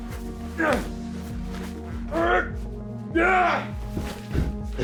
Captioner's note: people groaning